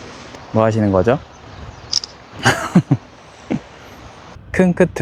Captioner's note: click